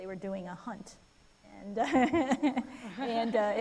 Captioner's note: people laughing